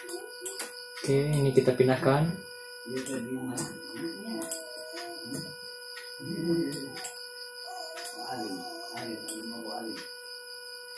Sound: typing

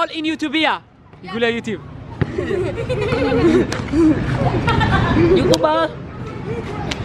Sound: children laughing

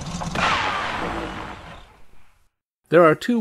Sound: sound of engine running out of fuel

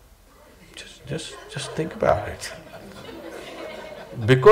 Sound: laughter

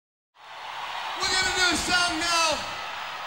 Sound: audience cheering

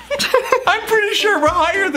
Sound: laughs

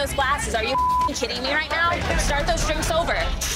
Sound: beeping

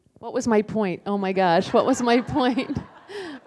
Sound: laughter

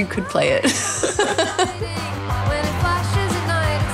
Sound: laughter

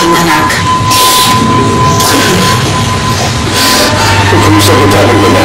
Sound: crying

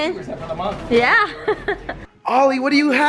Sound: laughter

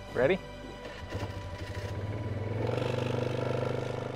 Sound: motorcycle revs

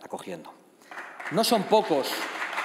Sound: audience applauding

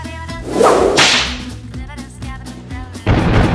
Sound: whip cracks

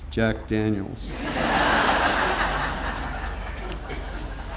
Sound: audience laughing

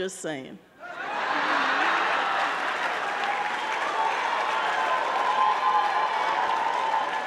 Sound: audience cheering; audience clapping

